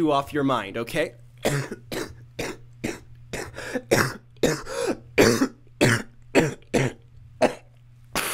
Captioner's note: coughs; sniffle